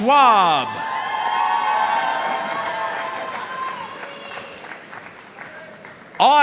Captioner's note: audience cheering and applauding